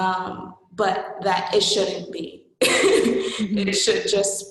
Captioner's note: laughing